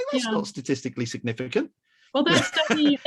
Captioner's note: laughs